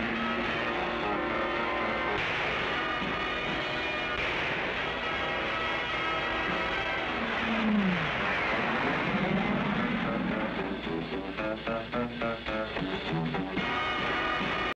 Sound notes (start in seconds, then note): 2.1 gun firing; 7.9 plane engine roaring